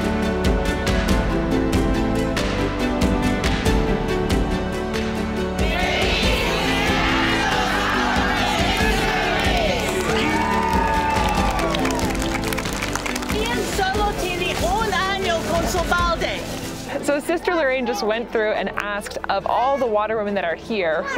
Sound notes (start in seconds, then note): 10.3 applauding; 10.3 cheering; 13.7 speaking in foreign language